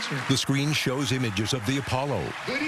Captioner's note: cheering and applause